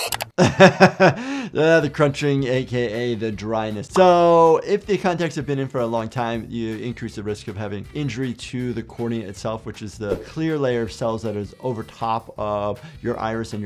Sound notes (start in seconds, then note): 0.0 button clicking; 0.3 laughing; 3.9 image popping; 10.1 screen whooshing